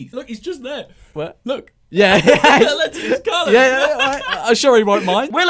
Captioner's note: laughs